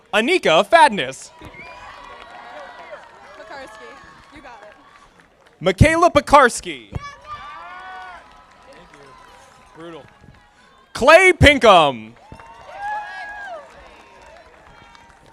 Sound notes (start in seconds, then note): 1.3 audience applauding; 7.2 audience applauding